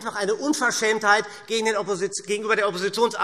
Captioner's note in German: none